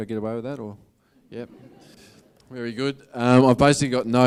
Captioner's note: audience laughs